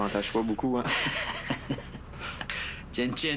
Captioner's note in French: Rires